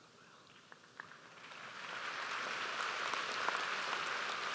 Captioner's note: audience applauds